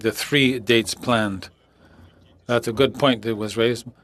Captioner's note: speaking French